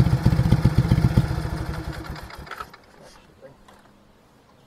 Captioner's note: engine shuts off